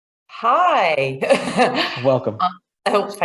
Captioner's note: laughs